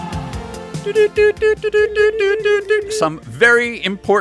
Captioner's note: morse Code noises